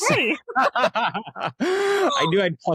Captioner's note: both laughing